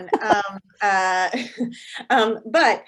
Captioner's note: chuckles